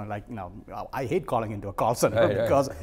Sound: laughing

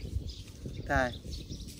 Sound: Arabic

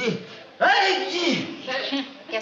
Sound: sneezes

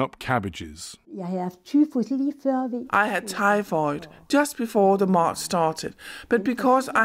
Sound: through translator

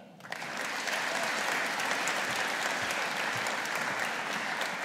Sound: audience applauding

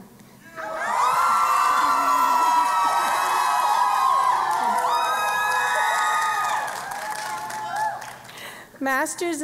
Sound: cheering and Applause

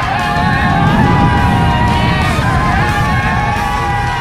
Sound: people screaming indistinctly

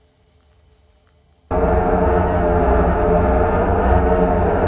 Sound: loud rumbling

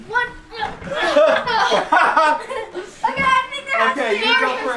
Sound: laughing

